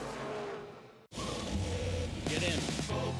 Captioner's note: engines roaring